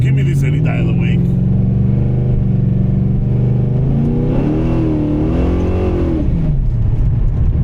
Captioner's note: engine revving